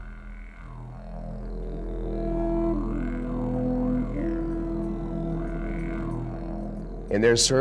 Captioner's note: deep tone